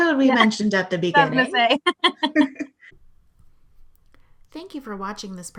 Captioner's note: laughing